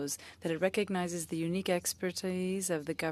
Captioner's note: speaking French